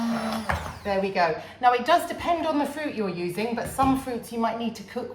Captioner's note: blender noise